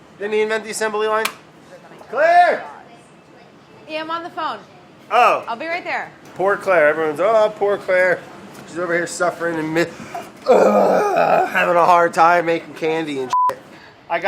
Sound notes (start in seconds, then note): 10.4 exasperated sigh